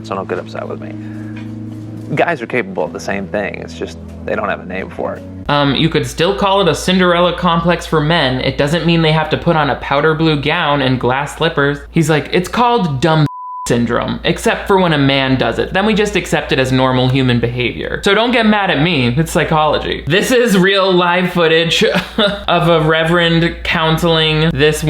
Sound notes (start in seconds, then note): 13.2 beep